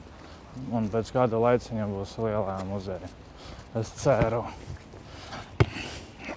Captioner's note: laughs